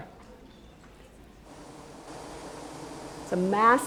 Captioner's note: bee buzzling